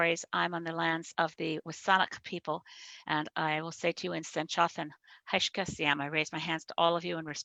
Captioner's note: speaks in SENĆOŦEN